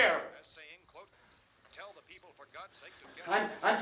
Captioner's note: man on radio continues announcing